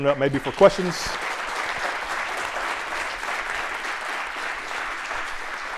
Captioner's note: applause